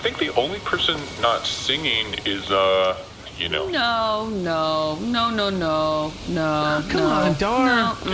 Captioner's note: nervous